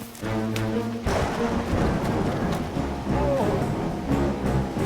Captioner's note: thunder rumbling